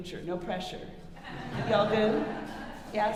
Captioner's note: audience laughing